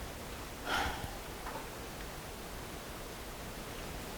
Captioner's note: sighs